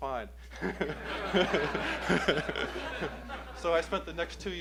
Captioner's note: laughter